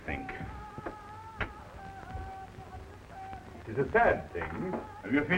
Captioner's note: man chanting in foreign language